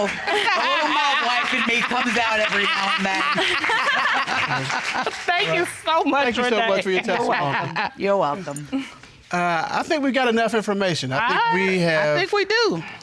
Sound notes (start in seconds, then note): 3.5 chuckles; 3.5 judge chuckling